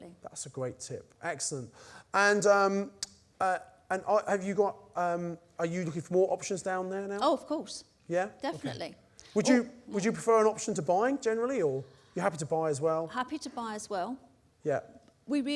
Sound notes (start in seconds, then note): none